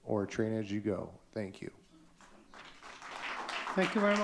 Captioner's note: audience clapping